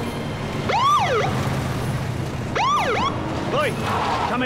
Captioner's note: police siren